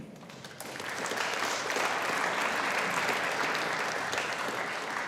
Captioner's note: audience applauding